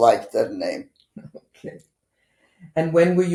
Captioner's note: laughing